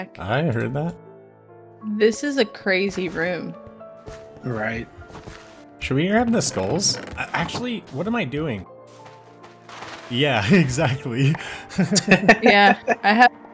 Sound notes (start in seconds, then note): 11.4 laughs; 11.5 chuckles